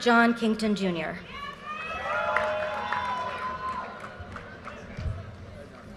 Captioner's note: audience cheers and applause